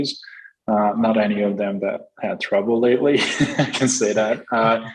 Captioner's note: chuckles